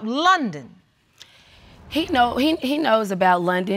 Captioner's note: stammers